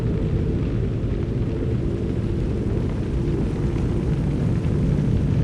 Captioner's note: burning and crackling